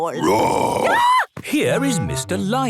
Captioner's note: roar, scream